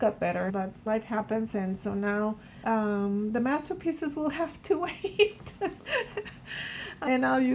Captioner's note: laughs